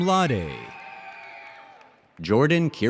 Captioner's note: audience cheers and applauds